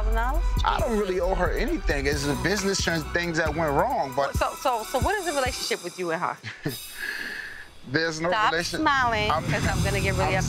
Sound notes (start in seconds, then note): 6.4 chuckles